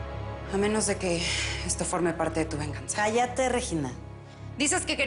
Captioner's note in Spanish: En otro tono